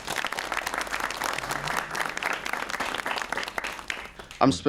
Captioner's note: audience applauds